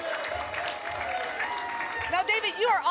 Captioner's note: applause and cheering cont